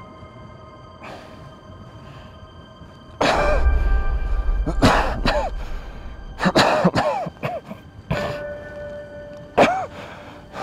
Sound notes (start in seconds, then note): 1.0 breathes in; 2.6 coughing